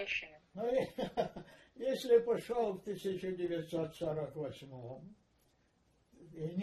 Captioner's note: laughing